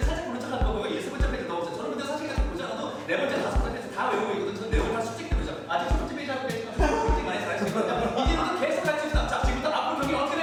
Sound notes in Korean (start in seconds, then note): 3.1 빠른 호흡의 대사